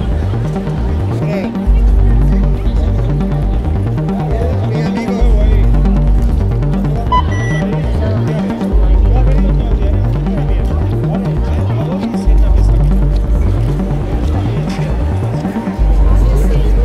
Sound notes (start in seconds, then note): 5.5 dramatic music continues; 7.0 interface beeps; 11.7 dramatic music continues